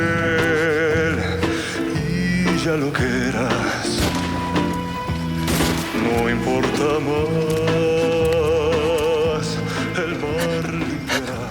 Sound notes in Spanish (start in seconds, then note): 3.9 Disparos